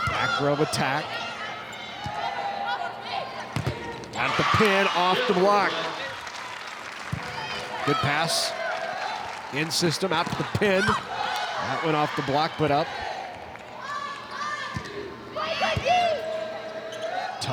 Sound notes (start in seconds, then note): 2.0 players shouting indistinctly; 3.5 ball thumping; 3.8 audience cheering; 15.3 players shouting indistinctly